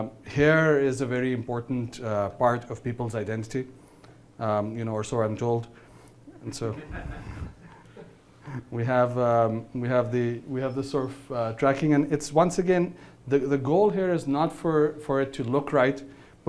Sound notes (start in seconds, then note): 6.6 laughing